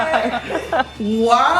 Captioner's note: laughing